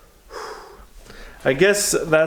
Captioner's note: exhales